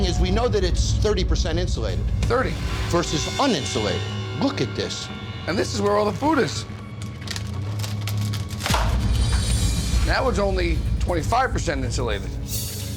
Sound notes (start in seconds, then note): 7.0 crackling; 8.5 snap